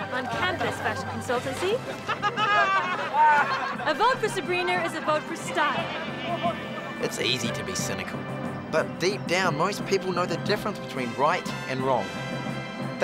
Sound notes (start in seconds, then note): 0.6 laughing